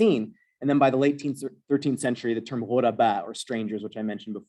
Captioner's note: non-english